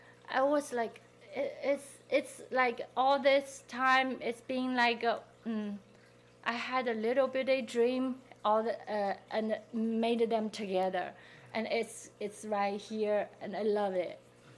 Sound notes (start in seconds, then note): none